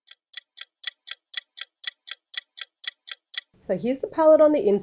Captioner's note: clock ticking